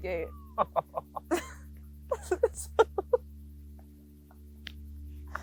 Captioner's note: laugh